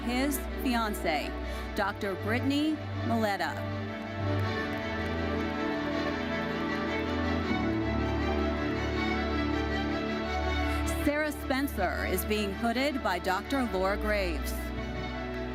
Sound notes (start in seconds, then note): 4.0 audience applauding; 6.5 bright uplifting music continues